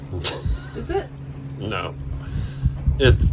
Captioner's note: laugh